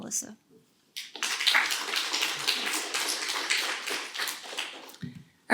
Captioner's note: applause